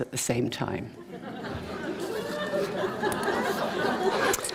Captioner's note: laughter